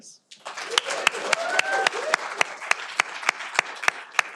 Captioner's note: audience applauding